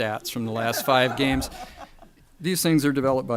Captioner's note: audience laughter